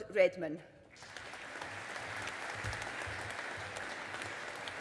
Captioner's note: audience applauding